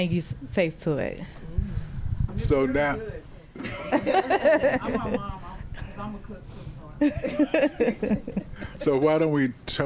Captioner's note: laughter